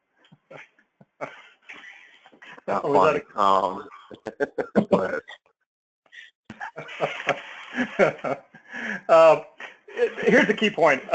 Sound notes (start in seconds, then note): 1.2 laugh; 6.5 laugh